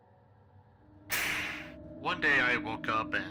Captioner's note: light turning on.wav